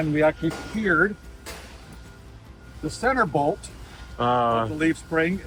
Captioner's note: metal banging